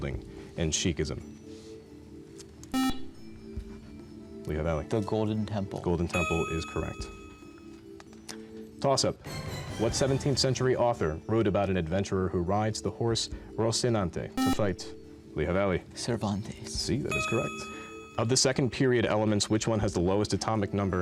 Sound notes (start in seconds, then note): 2.7 buzzer; 14.4 buzzer